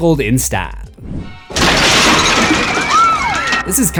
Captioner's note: screams